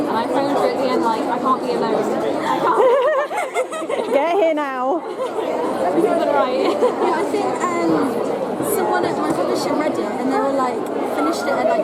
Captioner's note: laughter